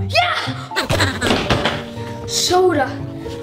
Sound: gibbering

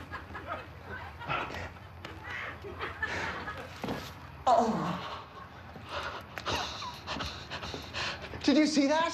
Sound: laughter

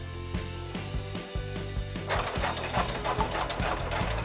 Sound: glider sound

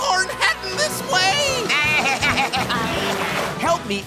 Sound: bleating

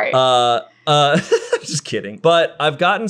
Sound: laughing

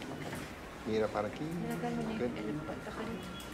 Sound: Spanish

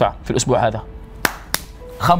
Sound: smacks hand

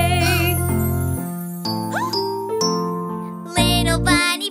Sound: kid gasping

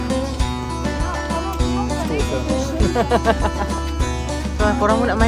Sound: speaking German; laugh

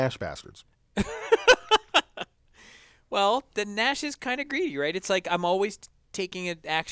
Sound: laugh

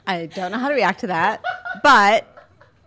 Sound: laughing

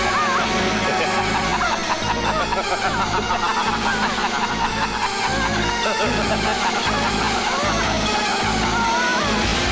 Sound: laughs

